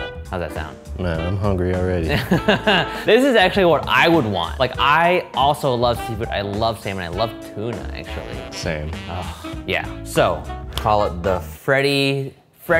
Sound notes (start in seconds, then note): 2.1 laughing